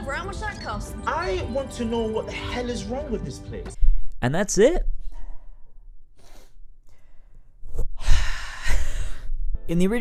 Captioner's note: sigh